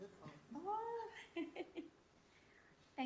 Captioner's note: laughs